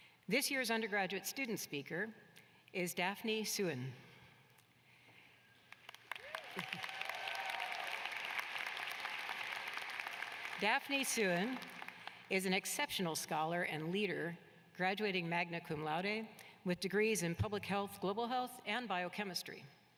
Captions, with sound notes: THIS YEAR'S UNDERGRADUATE STUDENT SPEAKER IS DAPHNE SUEN. [APPLAUSE] DAPHNE SUEN IS AN EXCEPTIONAL SCHOLAR AND LEADER GRADUATING MAGNA CUMLAUDA.